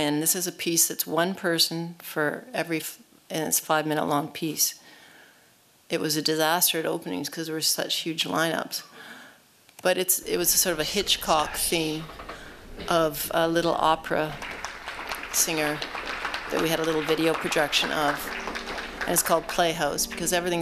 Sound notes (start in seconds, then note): 14.0 applause